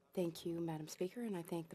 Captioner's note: speaking FRENCH